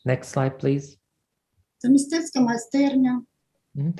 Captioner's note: foreign Language